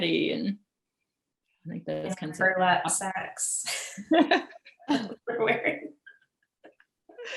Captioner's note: laughs